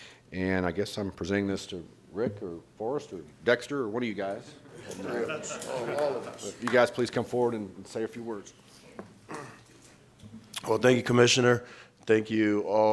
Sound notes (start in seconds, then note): 4.6 laughter